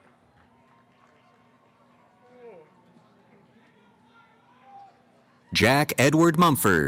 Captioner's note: cheering